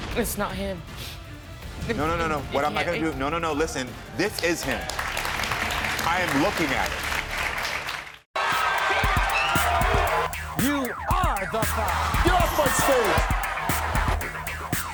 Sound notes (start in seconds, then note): 4.2 audience applauds